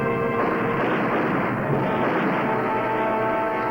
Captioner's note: gun firing